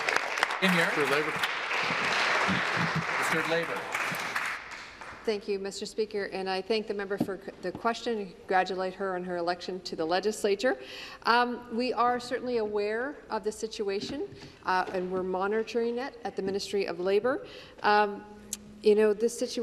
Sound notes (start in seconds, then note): 1.8 applause